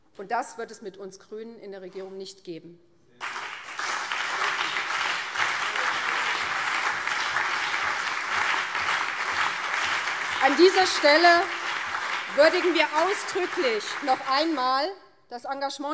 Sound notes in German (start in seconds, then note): 3.2 Beifall BÜNDNIS 90/DIE GRÜNEN und CDU